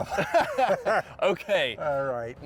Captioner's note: both laughing